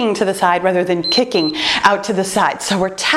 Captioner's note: timer beeps